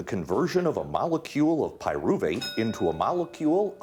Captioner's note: bell ringing